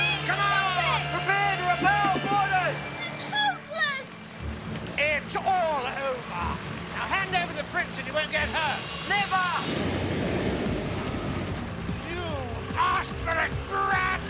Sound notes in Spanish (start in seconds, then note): 0.0 niños gritando; 2.8 grita